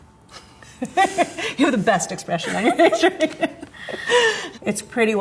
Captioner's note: laughs